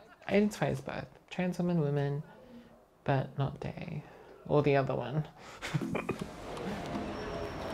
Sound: laughs

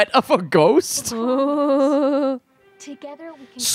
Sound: laughing; making ghost noises

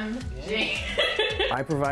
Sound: laughs

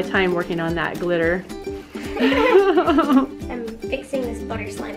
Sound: both laugh

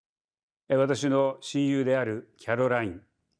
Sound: speaking japanese

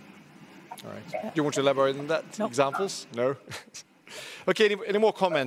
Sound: laughs

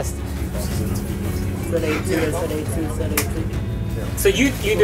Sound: muffled chatting

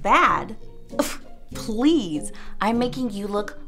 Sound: scoffs

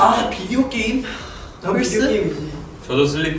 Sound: speaking Korean

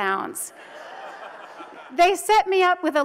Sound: audience laughs

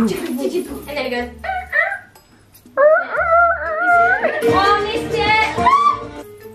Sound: high pitched squeaking; screams

